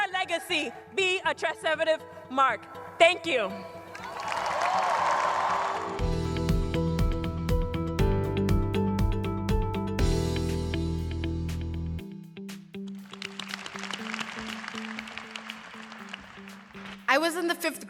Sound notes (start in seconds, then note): 4.0 cheers and applause; 13.1 applause